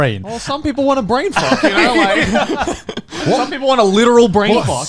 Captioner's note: laughing